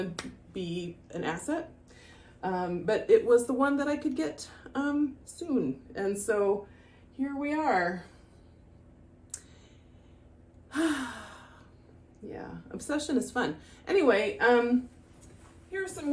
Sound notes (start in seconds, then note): 10.7 sigh